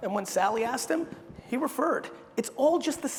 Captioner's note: none